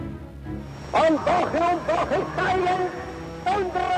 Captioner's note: speaking German